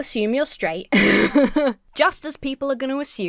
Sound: laughs

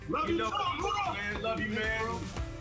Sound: clamoring

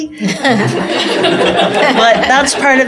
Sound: laughter

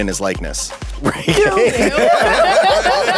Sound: laughs

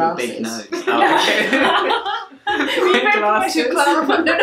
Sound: laughing

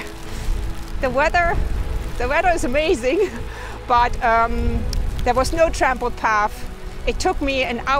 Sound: laughs

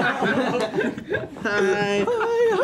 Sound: laughing

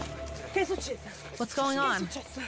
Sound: speaking in Italian

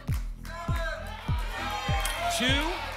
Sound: audience shouting numbers

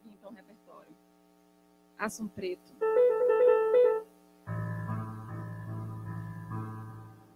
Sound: speaking to Portuguese

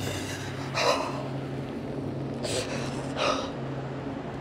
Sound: Alex gasping

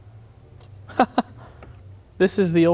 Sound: laughs

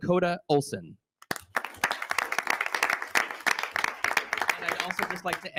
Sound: audience applauding

